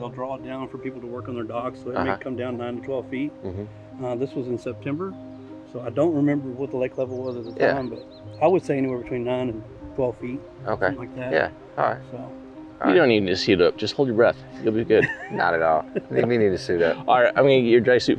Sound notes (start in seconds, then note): 14.7 laughs